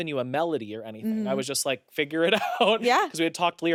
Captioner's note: laughs